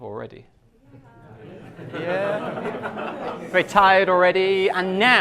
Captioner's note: class laughs